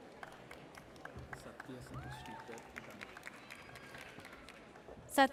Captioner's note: audience applauds